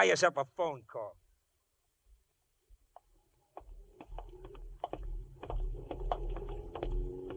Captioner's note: tapping